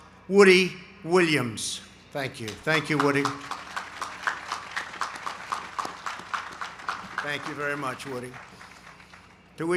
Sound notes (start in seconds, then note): 2.5 applause